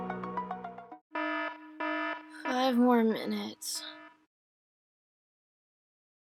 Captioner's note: alarm clock goes off